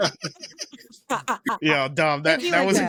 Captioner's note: laughter